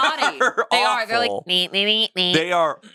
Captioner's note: makes sound effects